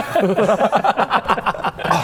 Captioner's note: teenage boy giggles